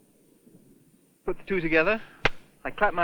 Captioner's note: claps